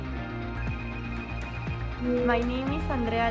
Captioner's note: phone rings